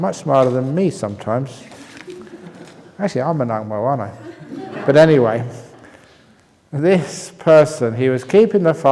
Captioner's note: laughter